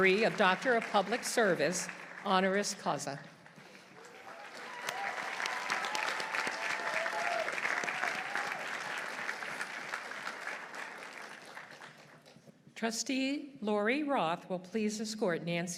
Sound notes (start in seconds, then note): 3.6 audience applauding; 4.0 audience cheering